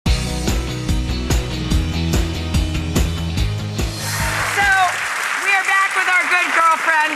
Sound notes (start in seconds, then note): 0.0 upbeat music; 3.9 audience clapping